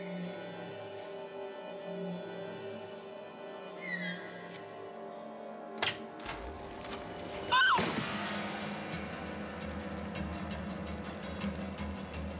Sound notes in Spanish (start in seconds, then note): 5.7 sonido al abrir la puerta; 7.5 grito